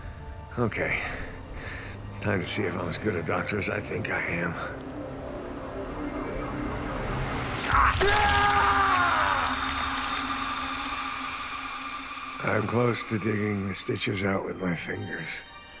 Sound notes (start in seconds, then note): 7.5 screams